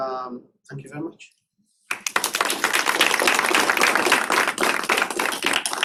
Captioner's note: applause